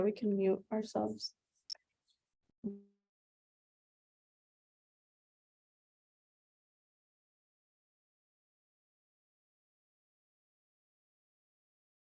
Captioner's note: audio muted